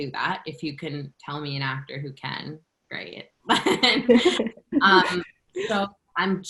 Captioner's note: laughter